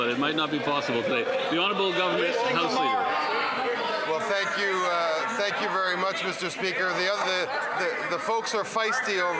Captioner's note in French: voix de l'interprète